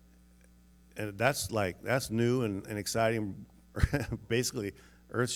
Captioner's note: laughs